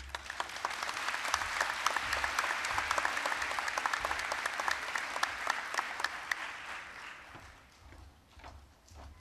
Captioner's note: applause